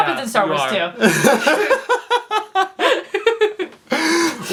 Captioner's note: laughs